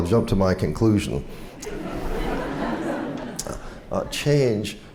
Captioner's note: laughter